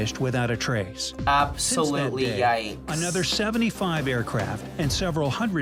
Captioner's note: voice-over